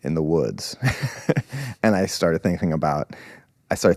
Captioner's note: laughs